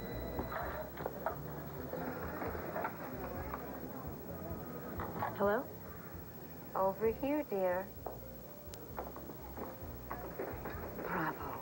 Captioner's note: telephone rings